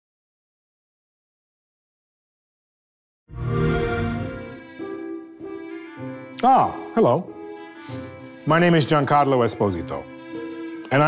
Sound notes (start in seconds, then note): 3.3 chamber music; 3.4 xbox sound